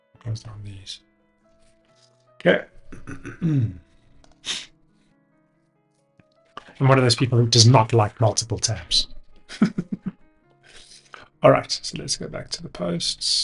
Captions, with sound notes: Closed down these. Okay. (clears throat) And one of those people who does not like multiple terms. (laughs) All right, so let's go back to the posts.